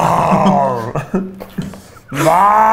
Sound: laughs

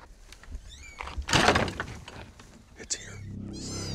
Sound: metal clanging; wood rattles

